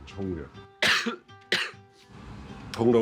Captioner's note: cough*2